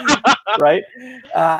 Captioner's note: laughing